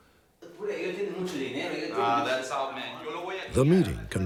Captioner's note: speaking spanish